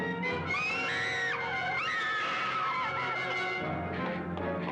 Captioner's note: Sheila screaming